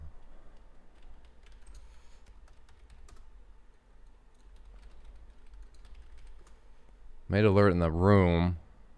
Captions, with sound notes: (types on keyboard) Made alert in the room.